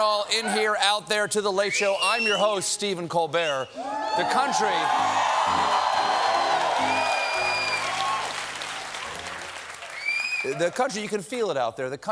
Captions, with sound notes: WELCOME, ONE AND ALL, IN HERE, OUT THERE, TO "THE LATE SHOW." I'M YOUR HOST, STEPHEN COLBERT. THE COUNTRY-- ( CHEERS AND APPLAUSE ) THE COUNTRY-- YOU CAN FEEL IT OUT THERE.